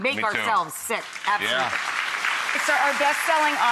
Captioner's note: audience applauds